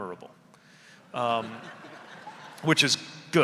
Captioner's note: audience laughing